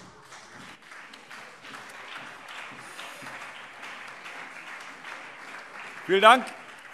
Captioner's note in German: Beifall CDU und BÜNDNIS 90/DIE GRÜNEN